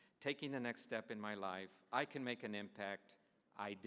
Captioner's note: none